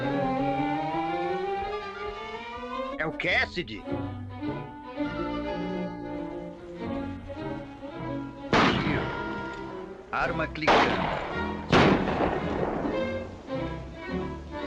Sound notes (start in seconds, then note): 8.5 gunshot; 10.6 gun click - gunshots